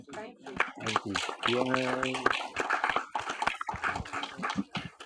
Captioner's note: audience applauding